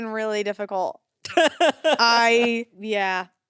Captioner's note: laughs